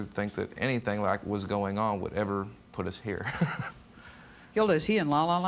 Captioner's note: laughs